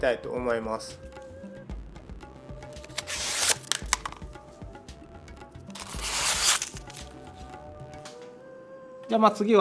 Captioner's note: the sound of cutting paper